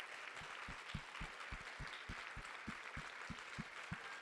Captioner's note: clapping